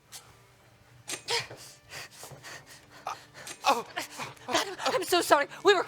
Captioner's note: gasps